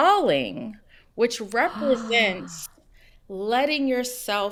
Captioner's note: gasps